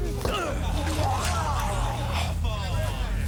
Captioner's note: grunting; man retches; crowd